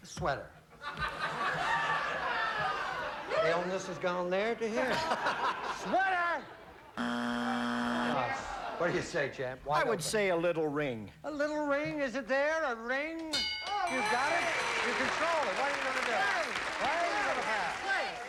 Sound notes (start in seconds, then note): 7.0 buzzer